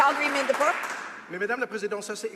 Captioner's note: some Applause